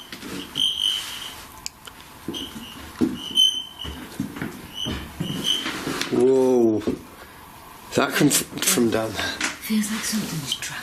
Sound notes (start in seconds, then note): 4.8 loud thumping